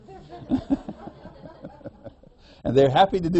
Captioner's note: laughter